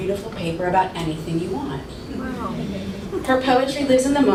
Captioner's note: audience expresses awe